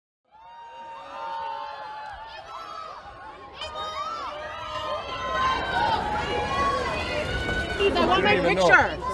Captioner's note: crowd Cheering